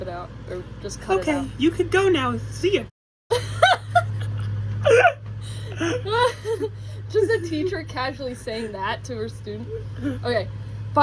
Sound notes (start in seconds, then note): 3.7 laughing